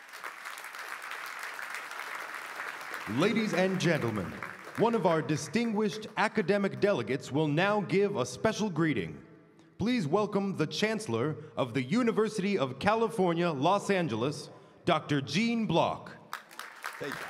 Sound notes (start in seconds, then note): 4.7 applause